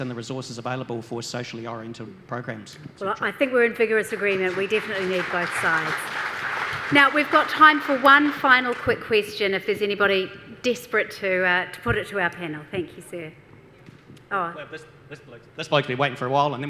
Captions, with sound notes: in the resources available for socially-oriented programmes. - I think we're in vigorous agreement, we definitely need both sides. (audience applause) Now we've got time for one final quick question if there's anybody desperate to put it to our panel, Thank you, sir. - This bloke been waiting for a while